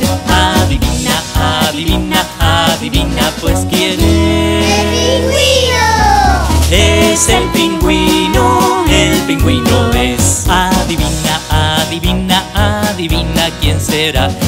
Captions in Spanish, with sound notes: Adivina , adivina ,adivina, pues ¿Quién es? (coro de niños gritando)¡ EL PINGÜINO! Es el Pingüino, el Pingüino es Adivina, adivina, adivina, ¿Quién será?